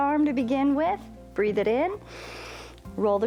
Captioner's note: inhales